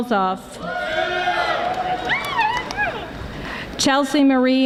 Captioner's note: audience applauding